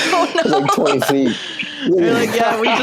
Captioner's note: laughs